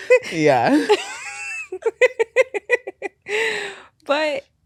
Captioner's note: laughing